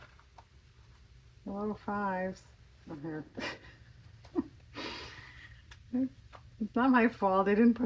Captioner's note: laughs